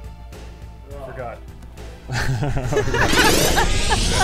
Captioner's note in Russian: смеются